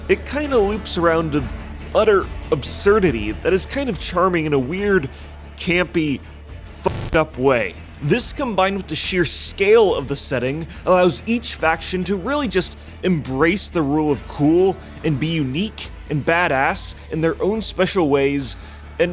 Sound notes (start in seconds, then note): 6.8 static glitching